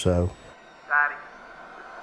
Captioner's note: on phone